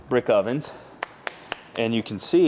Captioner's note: hands clapping